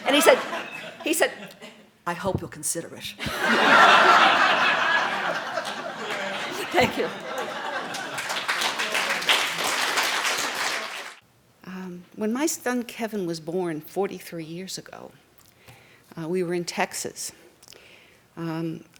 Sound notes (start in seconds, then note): 3.2 laughing; 8.1 clapping